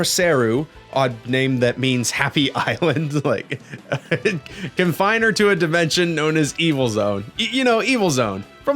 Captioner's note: laughs